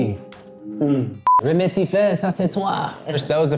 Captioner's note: speaking in French